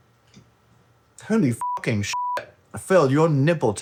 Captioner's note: beep